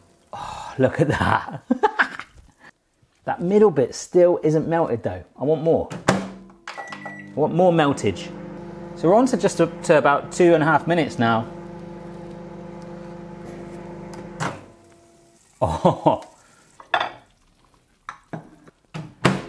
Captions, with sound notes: Oh look at that! (laughs) That middle bit still isn't melted though. I want more. I want more meltage. So we're onto just about two and a half minutes now. Oh!